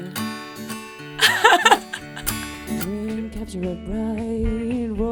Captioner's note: laughing